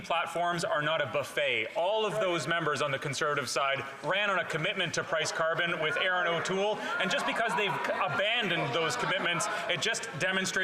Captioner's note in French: voix de l'interprète